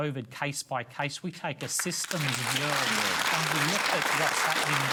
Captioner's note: applause drowns out speech